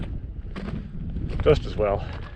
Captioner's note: footsteps thumping